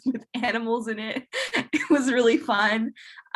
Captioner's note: chuckles